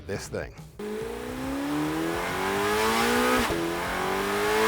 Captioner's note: engine revving